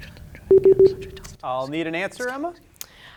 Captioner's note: beep